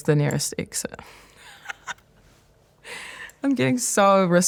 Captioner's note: laughs